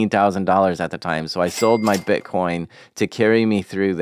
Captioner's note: cash register dinging